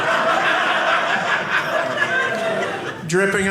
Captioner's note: audience laughing